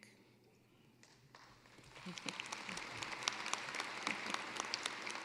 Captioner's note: applause